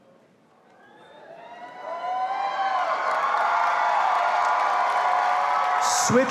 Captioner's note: all applauding and cheering